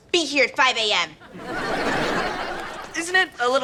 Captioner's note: audience laughter